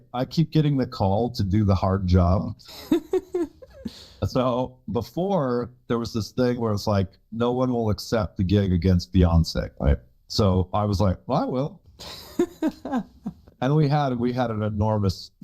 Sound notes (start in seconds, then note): 2.7 chuckles; 12.0 laughs